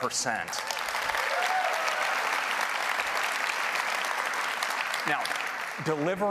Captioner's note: applause